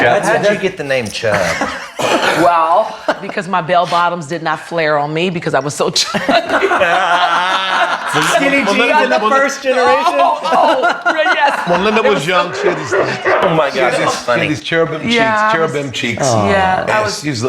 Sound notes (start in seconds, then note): 7.4 all laughing; 9.7 laughs